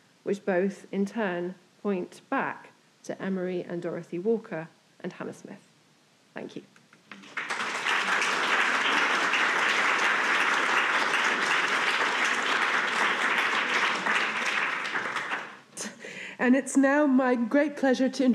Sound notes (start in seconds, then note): 7.1 audience applauding